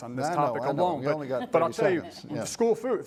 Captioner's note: laughter